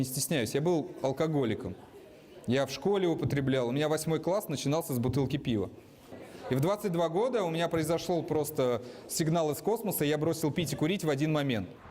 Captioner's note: speaking russian